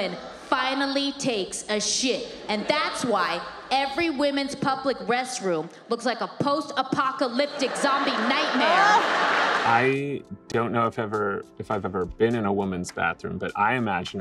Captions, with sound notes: when a woman finally takes a shit. And that's why every women's public restroom looks like a post apocalyptic zombie nightmare. (audience laughs) - I don't know if ever, if I've ever been in a woman's bathroom,